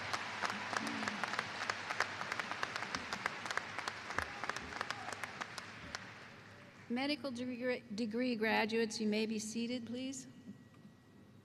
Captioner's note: applause